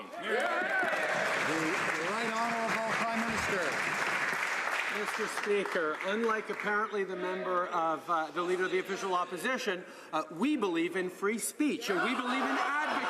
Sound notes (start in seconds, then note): 3.5 some Applause